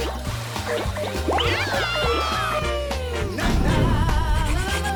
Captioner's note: cheering